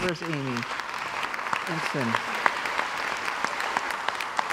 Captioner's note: crowd applauds